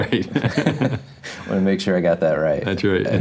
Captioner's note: both laugh